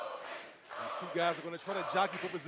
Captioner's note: fans chanting